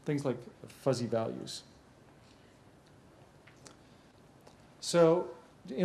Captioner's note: pause